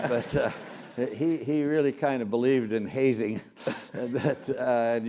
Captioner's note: laugh